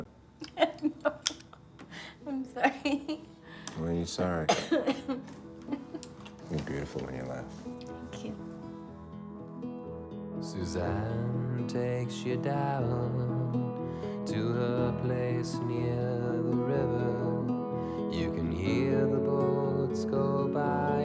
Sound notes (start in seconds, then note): 4.4 coughs; 8.8 soft rock music